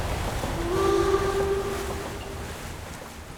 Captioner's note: train horn blows